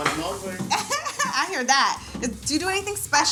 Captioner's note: laughs